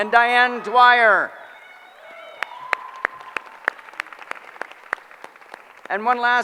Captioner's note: applause